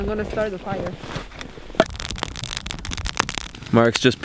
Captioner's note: fire crackling; logs clink together